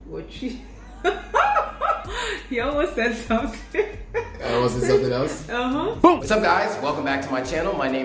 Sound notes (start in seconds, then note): 3.3 laughing